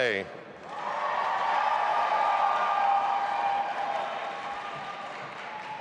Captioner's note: audience applauding and cheering